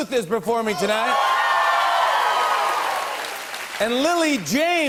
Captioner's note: cheers and applause